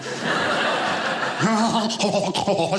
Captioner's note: audience laughing